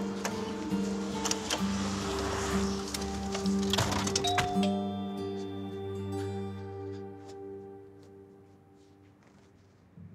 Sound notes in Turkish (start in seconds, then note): 4.2 Zil çalıyor